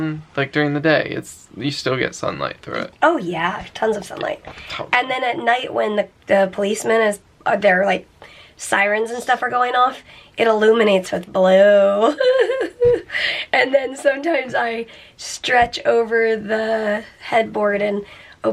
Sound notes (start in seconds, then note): 11.9 laughing